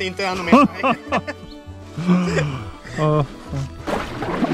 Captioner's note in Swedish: Skratt